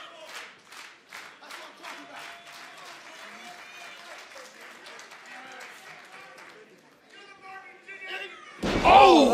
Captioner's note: crowd cheering